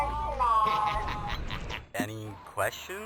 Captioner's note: maniacal laughter